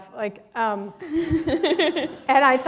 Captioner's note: chuckle